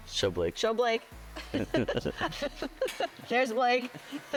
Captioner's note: laughs